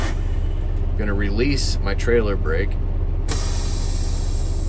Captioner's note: air brakes releasing; air brakes releasing